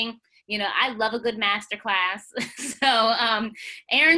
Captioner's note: laughs